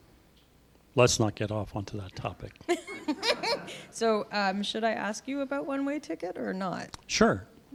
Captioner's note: laughter